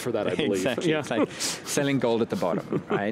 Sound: chuckling

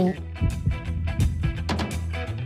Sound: ba-bump, ba-bump

